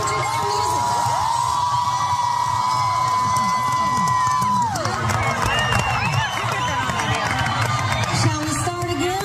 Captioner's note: applause